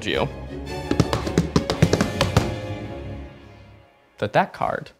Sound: pounding the table

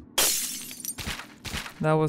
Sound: glass shatters

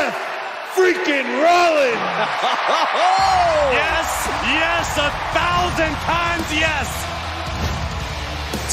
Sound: cheering

